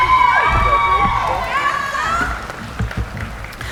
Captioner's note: cheering